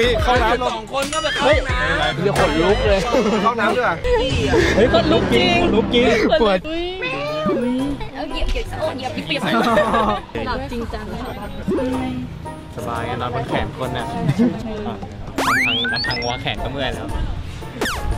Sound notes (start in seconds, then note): 4.0 chuckles; 9.4 laughs; 14.1 chuckles